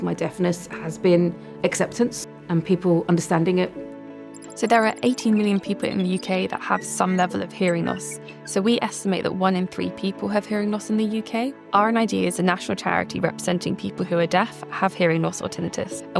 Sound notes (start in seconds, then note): 4.3 digital processing sounds